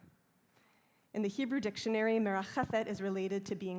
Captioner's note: hebrew